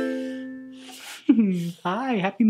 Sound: ukulele strum; laughs

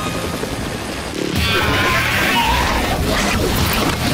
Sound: screeching

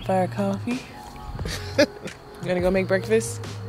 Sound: grammy chuckles

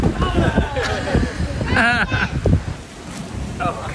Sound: everyone laughing

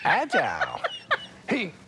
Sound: laughs

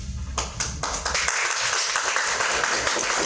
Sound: applause

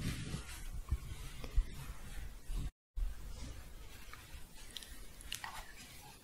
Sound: shuffling

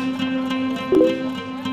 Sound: phone notification sound

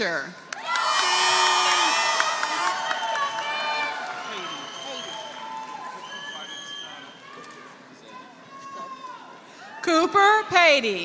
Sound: applause

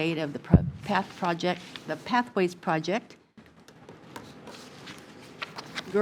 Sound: none

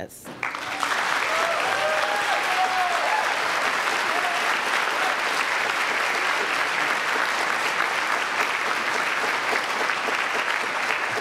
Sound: applause

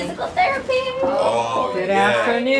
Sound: knocks on door

